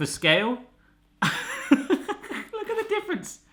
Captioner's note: laughing